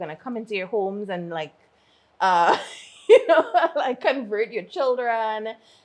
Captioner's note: laughs